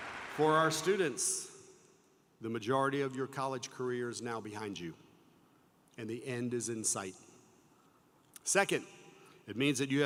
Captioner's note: applause